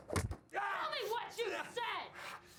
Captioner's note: screams